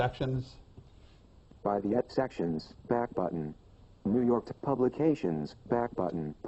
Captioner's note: iPhone announcing highlighted tabs